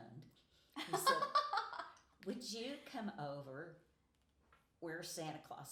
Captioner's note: laughing